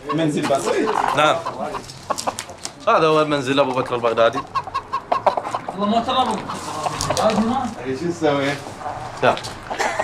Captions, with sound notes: It's all very modest. Yes, and that's al-Baghdadi's house. [Arabic spoken audio]